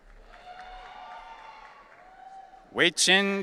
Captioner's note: audience cheering